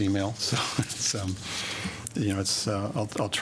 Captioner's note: laughter